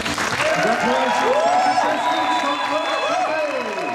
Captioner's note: cheers and applause